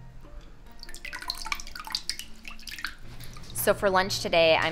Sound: water drips

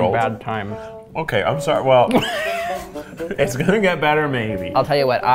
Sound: laughing

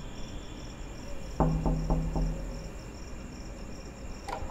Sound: door knocking sound

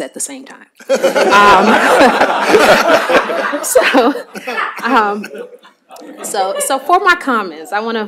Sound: laughter

